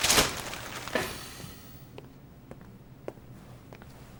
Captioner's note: Billy sighs